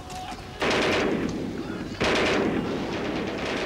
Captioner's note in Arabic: إطلاق نار